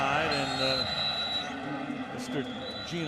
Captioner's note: whistle blows